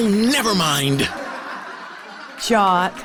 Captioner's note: laughing